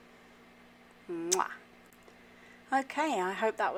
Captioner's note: “MUAH” kiss sound